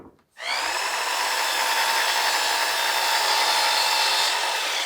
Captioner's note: machine whirring